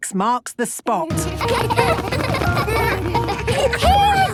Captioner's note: laughter